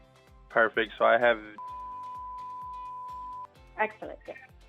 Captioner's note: beeping sound